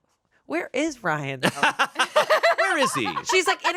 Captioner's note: everyone laughs